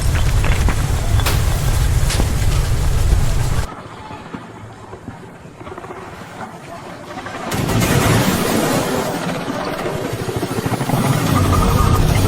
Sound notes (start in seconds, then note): 7.6 earth booms